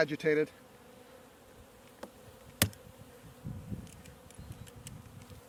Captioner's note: bees buzzing